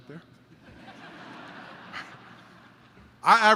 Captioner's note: laughter